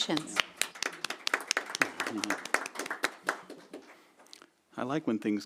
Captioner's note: applause